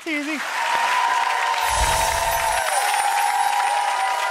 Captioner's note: audience cheers